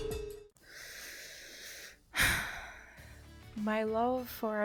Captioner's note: sigh